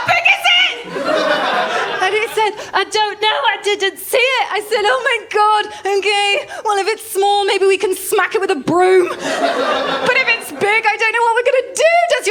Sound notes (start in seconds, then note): 0.8 laughter; 9.1 laughter